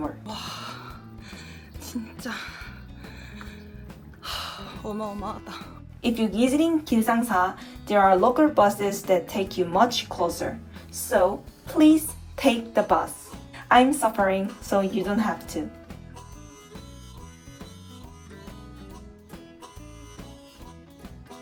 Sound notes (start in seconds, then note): 3.0 sigh